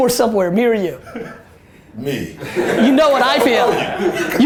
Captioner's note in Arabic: ضحك المجموعة